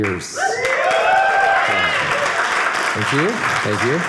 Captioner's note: audience cheering